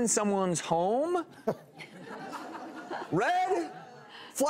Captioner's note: laughter